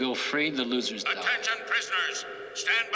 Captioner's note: man Over Speaker